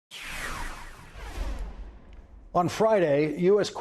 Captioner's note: air whooshing